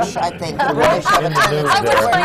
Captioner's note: laughter